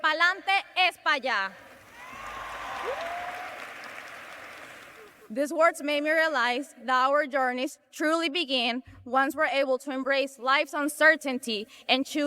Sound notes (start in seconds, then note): 5.9 cheers and applause